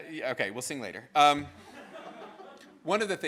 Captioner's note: students laughs